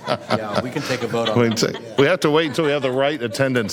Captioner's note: laughter